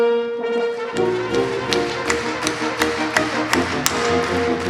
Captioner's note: audience claps